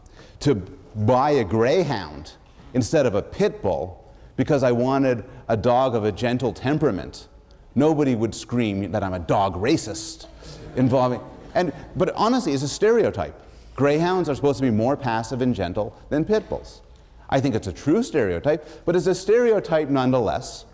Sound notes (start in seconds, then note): 10.4 laughter